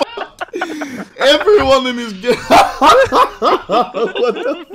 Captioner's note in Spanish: Mas risas xdxd